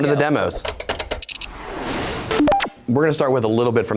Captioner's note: gears clacking